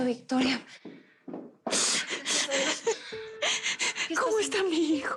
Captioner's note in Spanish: Sollozos